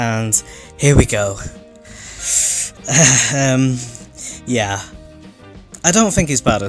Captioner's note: sharp intake of breath and laugh